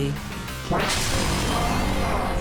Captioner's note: whoosh